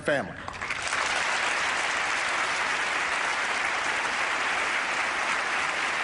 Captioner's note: applause